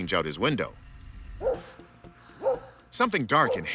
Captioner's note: dog barks